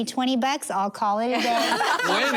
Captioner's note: laughter